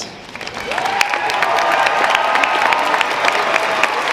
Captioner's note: audience cheering